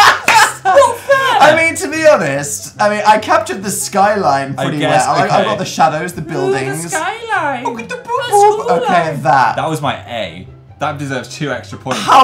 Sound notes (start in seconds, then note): 0.0 laughs; 6.9 high pitched mocking; 8.1 high pitched mocking noises